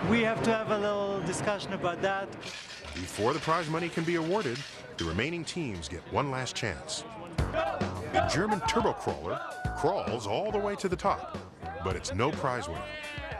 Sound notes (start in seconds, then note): 7.4 chanting